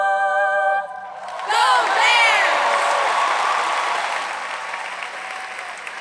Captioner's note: audience applauds